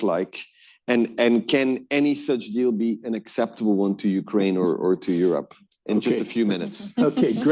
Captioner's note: laughter